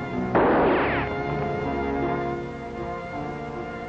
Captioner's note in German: Schussschüsse